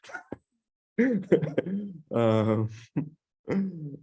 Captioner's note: laughs